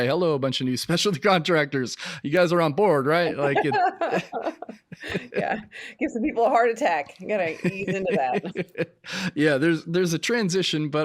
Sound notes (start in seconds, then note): 3.4 both laughing hysterically